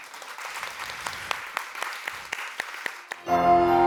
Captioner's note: applause; theme music playing